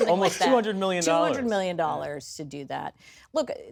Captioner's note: coughs